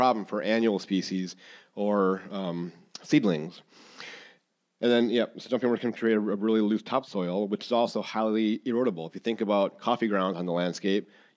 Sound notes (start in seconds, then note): none